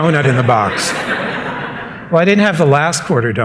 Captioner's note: laughter